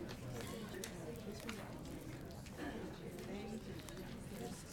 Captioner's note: people chattering